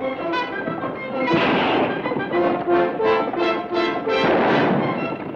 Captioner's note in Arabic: اطلاق نار